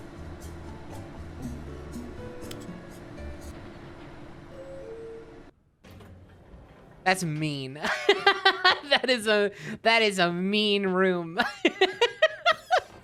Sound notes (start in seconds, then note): 1.8 music stops; 2.4 button clicks; 3.2 elevator beeps, opens; 7.1 laughing